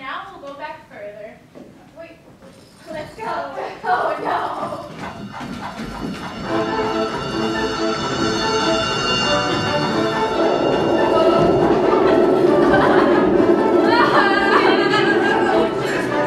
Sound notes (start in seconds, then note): 5.7 bells chiming; 6.9 energetic music; 11.6 all laughing